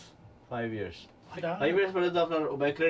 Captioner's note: non-english speech